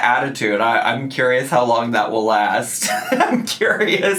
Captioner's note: laughs